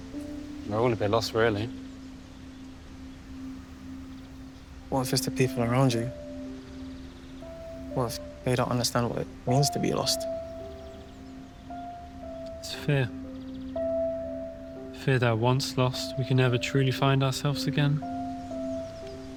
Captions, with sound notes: We're all a bit lost, really. - What if it's the people around you? What if they don't understand what it means to be lost? (sentimental music) (birds chirping) - It's fear. Fear that once lost, we can never truly find ourselves again.